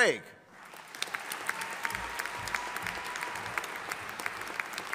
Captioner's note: audience applauding